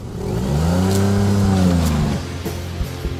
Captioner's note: engine roars